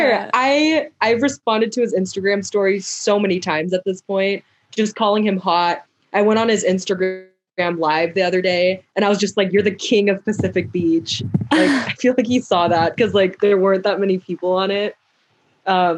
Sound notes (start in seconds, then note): 11.4 laughs